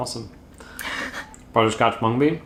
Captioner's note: laughs